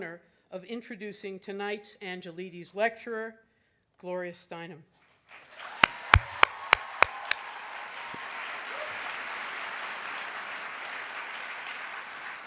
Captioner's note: audience cheering